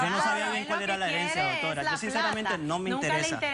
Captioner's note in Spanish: Hablan al unísono